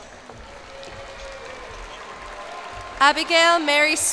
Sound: cheers and applause

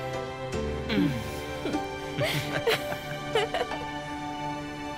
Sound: both chukle

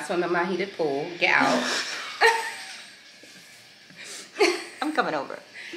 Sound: both laughing

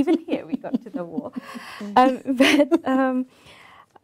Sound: laughing

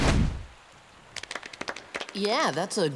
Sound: clapping

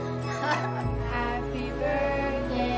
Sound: laughter

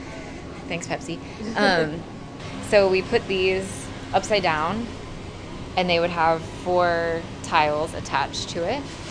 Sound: laughs

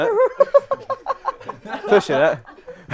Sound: people laughing

